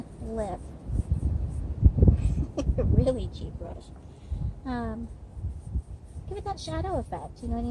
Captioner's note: laughing